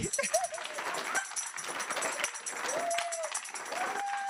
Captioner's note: audience applauding